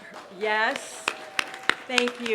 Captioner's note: applause